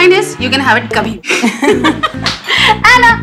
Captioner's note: girls laughing